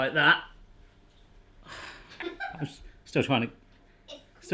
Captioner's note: laughs